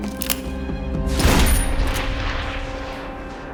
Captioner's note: gunshot